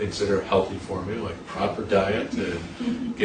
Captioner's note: interviewer chuckles